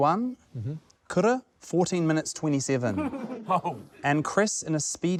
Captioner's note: chuckles